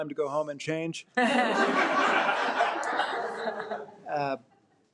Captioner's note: audience laughing